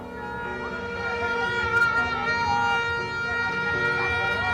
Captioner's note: horns honking